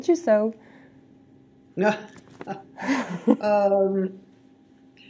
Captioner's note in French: Judith rit